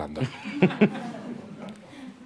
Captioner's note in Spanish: Risas